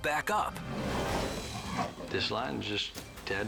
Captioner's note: lion roars